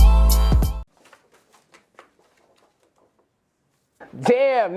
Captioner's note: score cards rattle